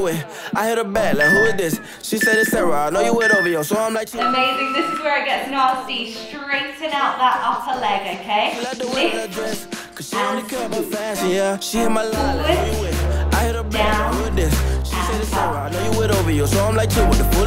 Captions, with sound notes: (timer beeping) Amazing, this is where it gets difficult. Straighten out that upper leg. Lift and swoop. Forward, down, and up.